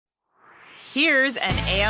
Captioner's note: swoosh